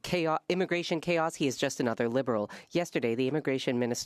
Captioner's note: speaking French